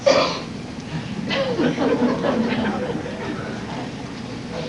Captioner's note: laughter